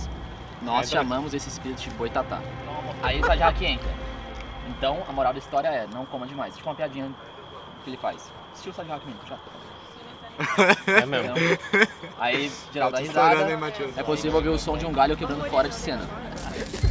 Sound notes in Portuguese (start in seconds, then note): 10.4 aspas rindo